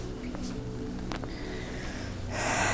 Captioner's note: Gauravi gasps; Gauravi sighs